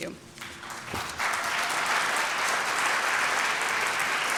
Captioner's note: applause